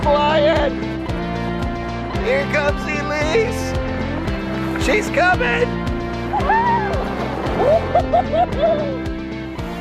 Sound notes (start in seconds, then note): 6.3 whoops